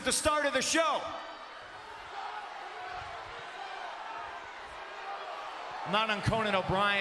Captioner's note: applause